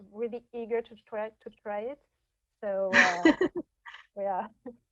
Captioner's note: laughing